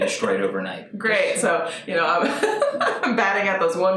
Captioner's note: laughs